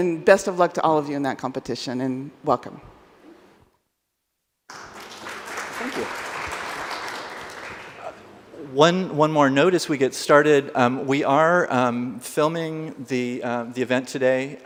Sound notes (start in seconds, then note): 4.7 audience applaud